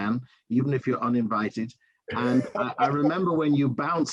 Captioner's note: laughter